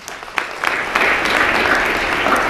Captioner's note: applause